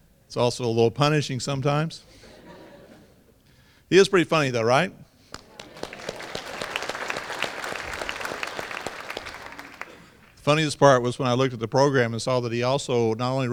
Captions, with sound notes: it's also a little punishing sometimes. he is pretty funny though right? (applause) funniest part was when I looked at the program and saw that he also not only